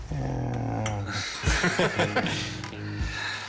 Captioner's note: laughter